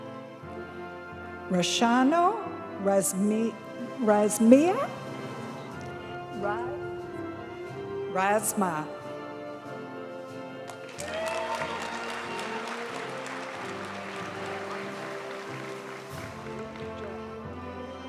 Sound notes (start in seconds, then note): 10.6 audience cheering and applauding; 15.0 graduation music